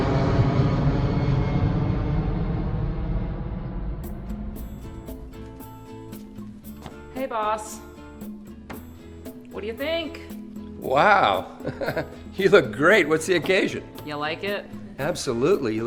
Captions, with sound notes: (uptempo mellow music) - Hey, Boss. What do you think? - Wow! (chuckles) You look great. What's the occasion? - You like it? - Absolutely.